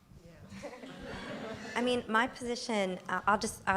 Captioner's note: laughter